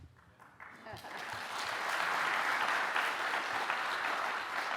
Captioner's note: audience applauding